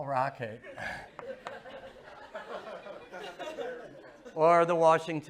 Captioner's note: laughter